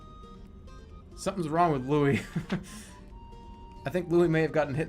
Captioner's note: laughs